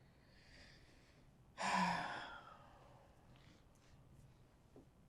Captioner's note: sighing